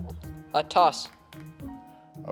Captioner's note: teammates whispering